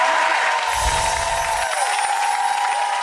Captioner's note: cheering